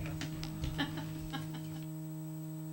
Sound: laughter

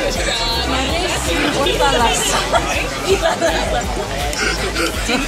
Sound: laughter

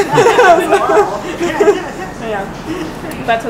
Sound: laughing

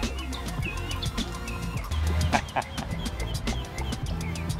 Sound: laughter

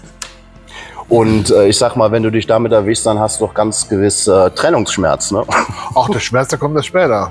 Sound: laughing

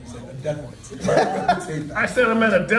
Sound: laugh

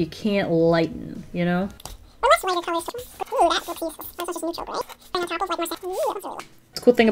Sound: incoherent sped up chipmunk talk

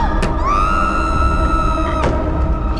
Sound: screams

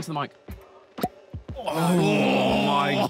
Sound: bottle pops

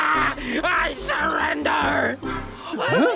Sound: fire dragons cheering

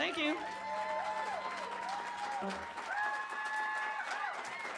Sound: cheers and applause

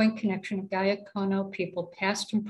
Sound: speaking cayuga

